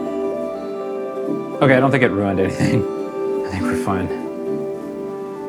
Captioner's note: laughs